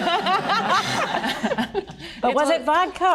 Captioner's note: all laughing